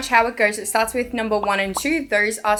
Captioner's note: popping